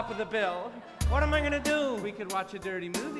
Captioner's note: laughter